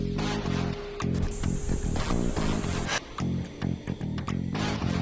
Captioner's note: spray hissing; machines whirring